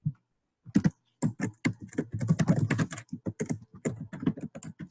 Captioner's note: keyboard keys clicking